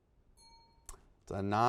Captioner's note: bell rings